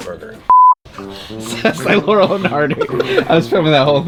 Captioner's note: laughing off-camera